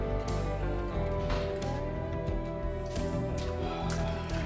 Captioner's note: door shuts; sighs